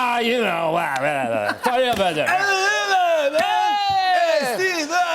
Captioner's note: both shouting